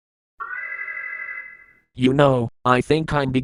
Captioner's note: alarm